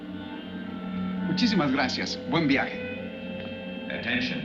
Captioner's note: man speaking in foreign language